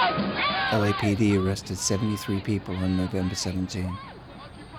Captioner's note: voiceover